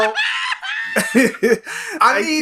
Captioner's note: laughs